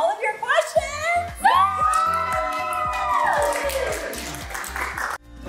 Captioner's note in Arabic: يهتف الجميع